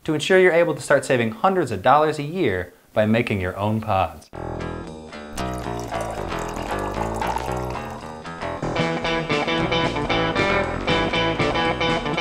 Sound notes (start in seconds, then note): 5.3 coffee pouring sound